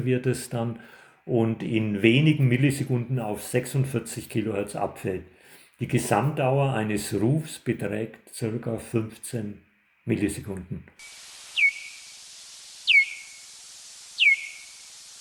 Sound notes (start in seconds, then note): 12.8 chirp